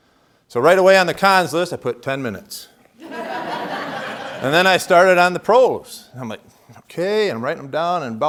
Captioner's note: laughter